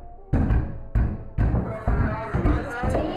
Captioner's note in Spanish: Golpes